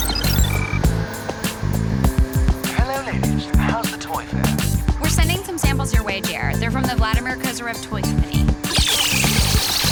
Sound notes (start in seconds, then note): 0.0 beeping; 3.5 on phone